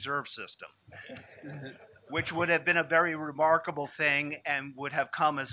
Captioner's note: laughter